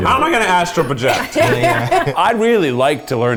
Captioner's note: laughter